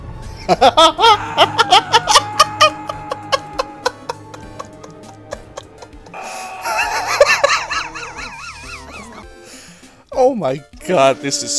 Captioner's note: hysterical laughter